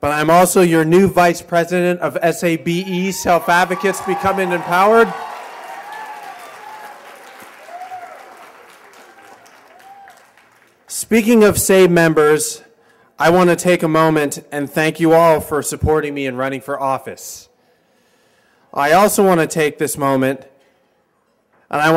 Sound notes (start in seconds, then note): 6.0 cheers and applause